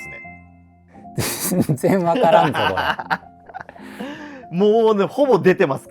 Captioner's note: laughing